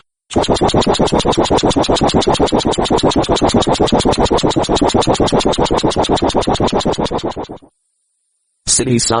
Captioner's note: RoflCopter "soi" sound